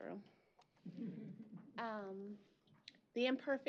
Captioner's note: chuckle